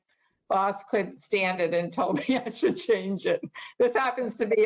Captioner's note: laughter